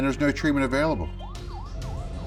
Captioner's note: sirens wailing